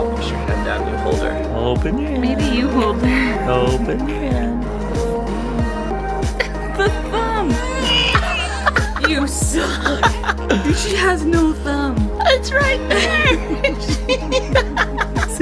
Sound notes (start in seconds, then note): 7.4 baby Crying; 9.1 laughing; 12.9 laughter